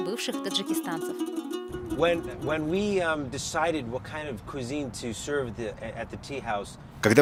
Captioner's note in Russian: английская речь